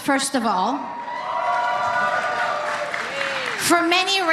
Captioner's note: applause